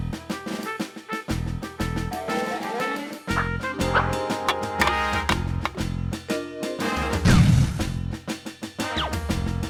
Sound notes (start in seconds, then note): 4.5 clattering